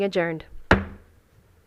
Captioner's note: gavel hitting dais